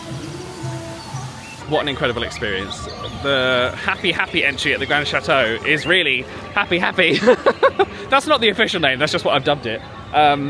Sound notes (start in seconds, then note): 7.5 laughs